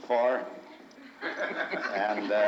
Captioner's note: crowd chuckles